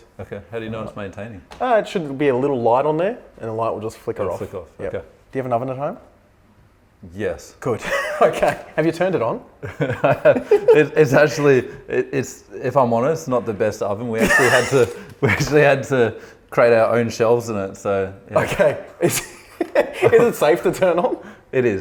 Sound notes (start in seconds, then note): 9.7 laughing; 18.4 laughing